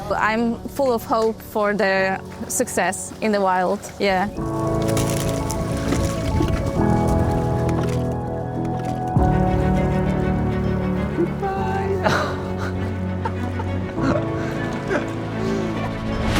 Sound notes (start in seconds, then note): 4.9 inspirational music; 4.9 water sloshing; 14.0 laughs; 16.1 inspirational music